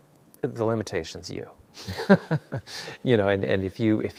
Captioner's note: laughs